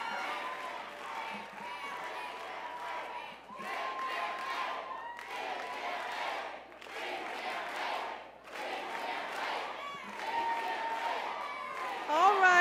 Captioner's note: crowd cheers